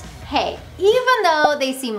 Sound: graphics pop

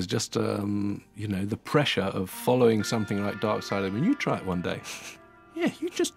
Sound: chuckling

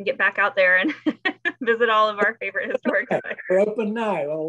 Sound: laughs

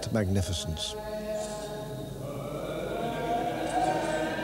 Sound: chanting continues

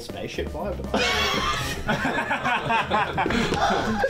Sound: laughter

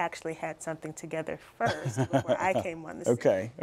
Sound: laughter

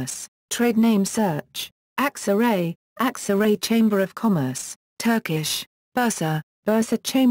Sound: Turkish

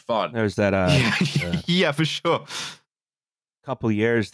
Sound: laughing

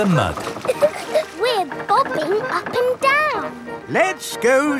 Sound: chuckles

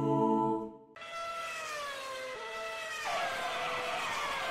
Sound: racing car

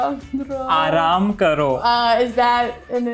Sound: speaking in Hindi

